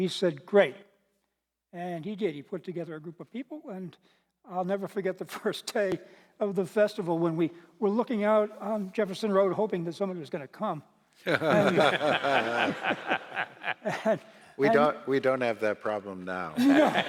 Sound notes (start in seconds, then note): 11.2 laughter